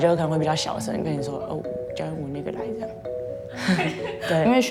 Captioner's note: laughter